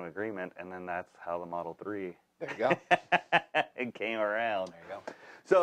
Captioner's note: laughs